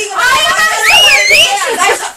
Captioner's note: whistling